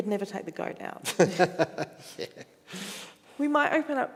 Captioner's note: chuckles